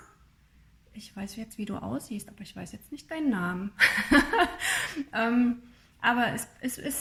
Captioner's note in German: gelächter